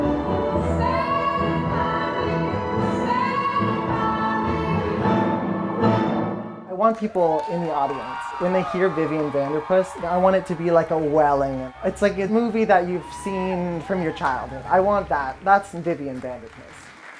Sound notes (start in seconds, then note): 4.7 cheers and applause; 17.0 applause